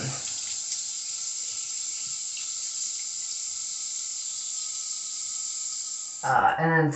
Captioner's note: water running